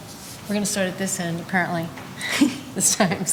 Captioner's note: laughs gently